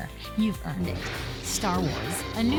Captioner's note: light saber sounds